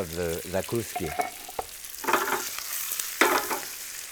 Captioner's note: pan sizzling